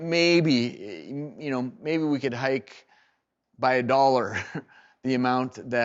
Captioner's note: laughs